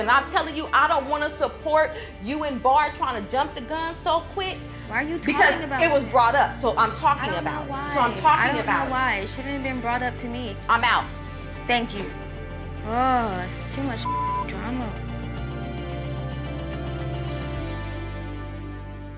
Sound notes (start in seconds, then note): 14.0 beep; 15.6 dramatic music